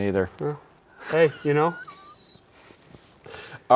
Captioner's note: laughing